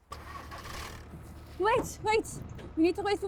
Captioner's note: engine starts